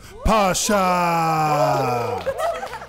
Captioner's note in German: Jubellaute, Klatschen